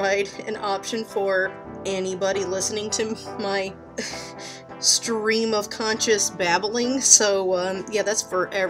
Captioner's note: laughs